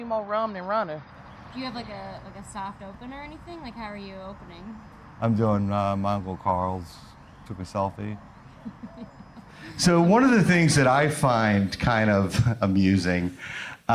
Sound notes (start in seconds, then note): 8.4 interviewer laughs